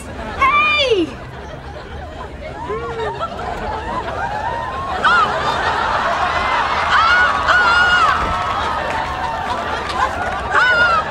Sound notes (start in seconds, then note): 2.6 audience laughing; 7.1 Phoebe screaming